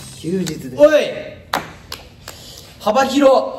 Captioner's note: claps